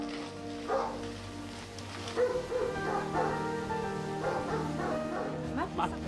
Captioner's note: Ladridos